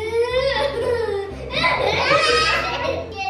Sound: laughing

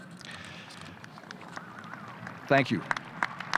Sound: audience applause

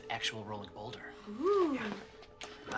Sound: whispered

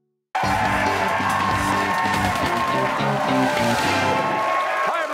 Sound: cheers and applause

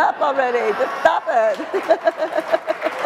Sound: crowd clapping; Dolores laughing

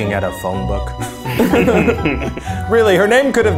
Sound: laughs

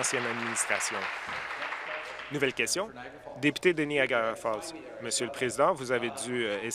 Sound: applause

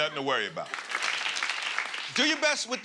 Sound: applause

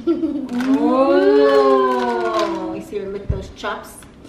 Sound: all cooing

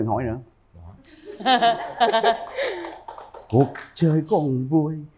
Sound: laughter

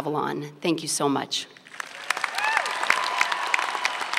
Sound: applause and cheering

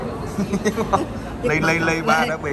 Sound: laughs

